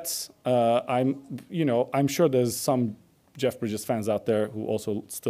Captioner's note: none